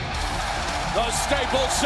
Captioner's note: crowd cheering